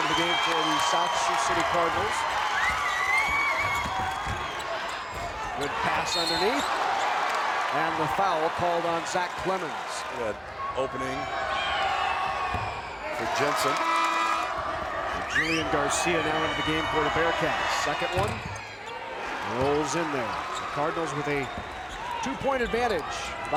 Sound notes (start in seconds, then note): 2.6 crowd cheers; 6.1 whistle blows